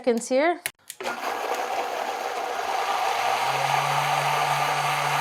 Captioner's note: blender whirring